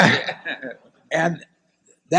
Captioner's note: laughter